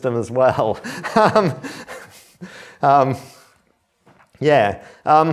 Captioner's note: laughs